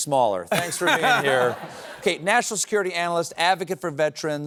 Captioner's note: laughter